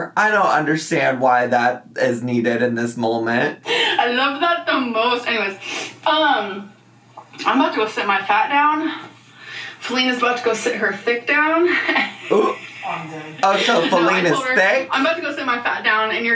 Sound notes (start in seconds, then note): 11.7 laughs